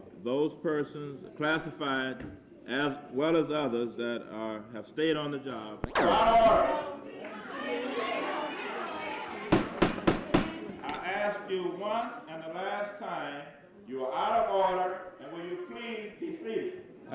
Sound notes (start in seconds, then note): 6.0 audience yelling; 9.3 gavel banging on table